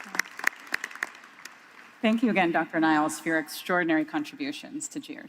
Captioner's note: applause